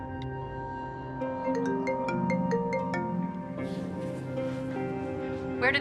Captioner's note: cellphone rings